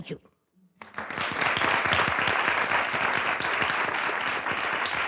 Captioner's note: audience applauds